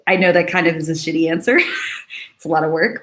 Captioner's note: laughs